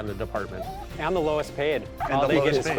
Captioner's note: dog whimpers